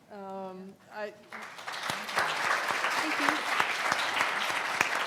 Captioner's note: audience applauding